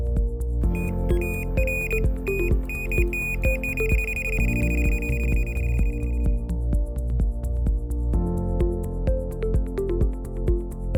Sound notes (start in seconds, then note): 0.7 beeping; 5.8 calm electronic music